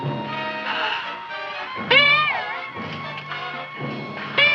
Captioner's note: girl gasps